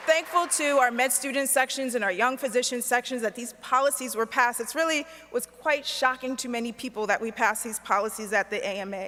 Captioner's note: applause